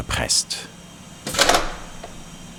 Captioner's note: clicking sound